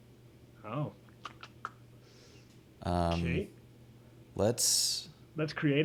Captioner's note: clicks tongue